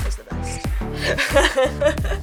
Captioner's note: laughs